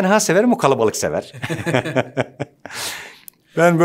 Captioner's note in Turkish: Gülüyor